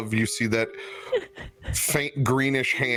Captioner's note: giggles